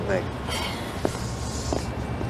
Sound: Meg sighs

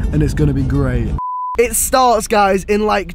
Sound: beep

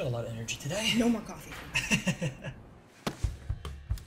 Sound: Declan laughs; motivated music

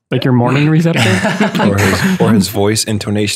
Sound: laughter

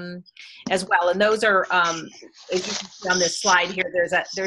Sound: audio warps

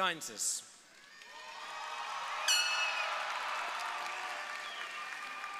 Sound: audience applauding

